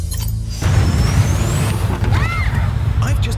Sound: engine revs up

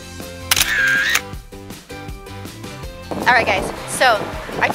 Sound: camera clicks

